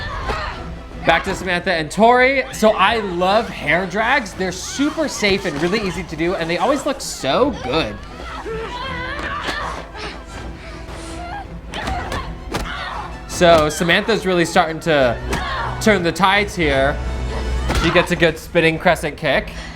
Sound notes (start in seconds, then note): 8.3 dramatic melodic music; 11.0 fighters grunting; 12.2 blows thudding